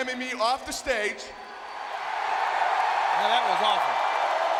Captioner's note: audience cheering